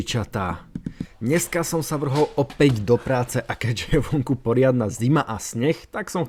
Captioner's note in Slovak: smiech